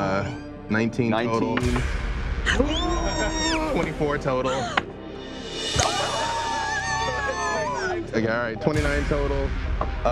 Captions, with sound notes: 19 total-- - 19. (groaning) - 24 total. (cheering) Alright, 29 total.